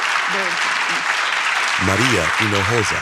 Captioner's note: applause